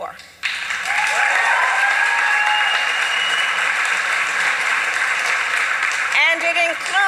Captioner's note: applause